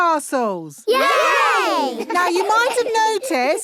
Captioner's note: laughing